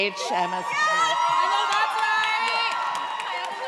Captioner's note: audience cheers